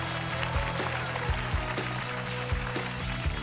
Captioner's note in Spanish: Aplauso